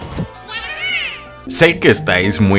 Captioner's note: happy sound